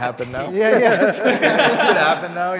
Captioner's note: group laughs